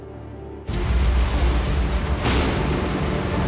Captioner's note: rain and thunder